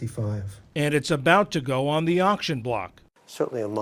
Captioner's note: voice-over